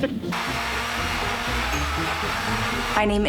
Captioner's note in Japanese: ミキサーの音